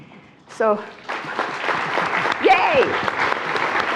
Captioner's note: attendees applauding